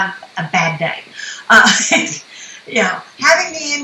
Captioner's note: laughs